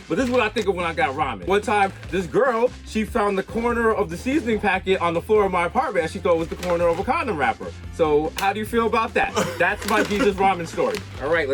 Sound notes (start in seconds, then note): 8.0 Mero claps